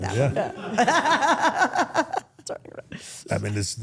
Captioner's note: everyone laughs